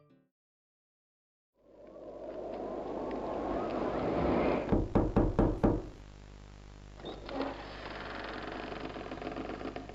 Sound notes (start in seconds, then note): 1.6 wind blowing; 4.7 knocking